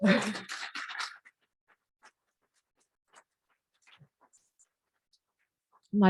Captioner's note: applause